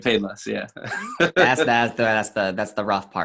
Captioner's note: chuckles